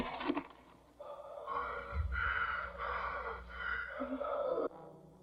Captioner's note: breathing Heavily, Gasping